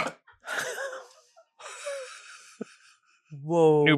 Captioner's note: everyone laughs